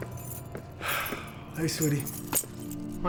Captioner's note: sigh